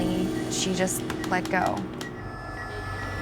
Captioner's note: beeping; ominous music